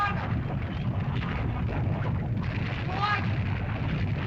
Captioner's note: lava bubbles & flows